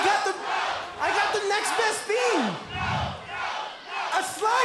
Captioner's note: crowd cheering